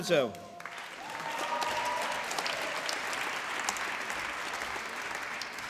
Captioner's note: applause